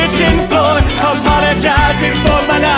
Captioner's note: clap